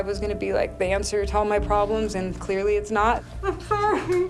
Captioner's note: crying